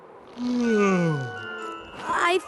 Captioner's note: yawn